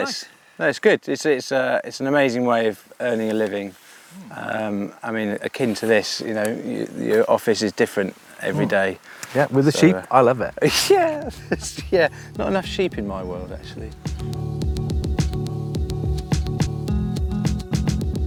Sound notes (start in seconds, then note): 10.4 laughs; 13.7 smooth music